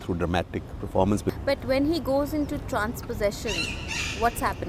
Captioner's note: birds chirpping